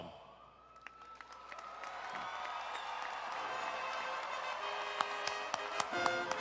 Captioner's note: audience applauding and cheering